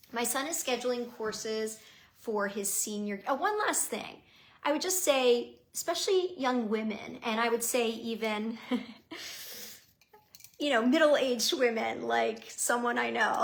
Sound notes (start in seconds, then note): 8.6 chuckling